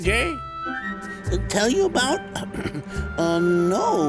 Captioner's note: clears throat